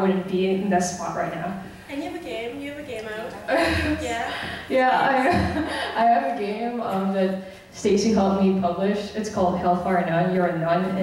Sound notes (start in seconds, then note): 2.5 voiceover